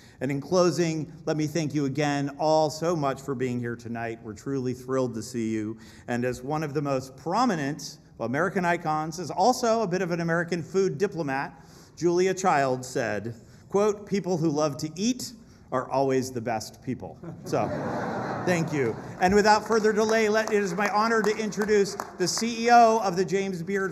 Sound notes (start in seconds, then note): 17.2 laughter